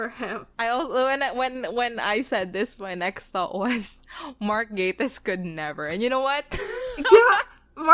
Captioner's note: laughs